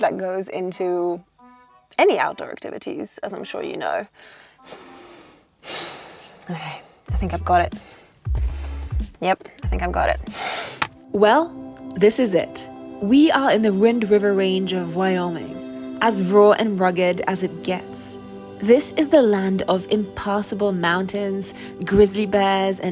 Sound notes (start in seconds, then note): 5.7 sighs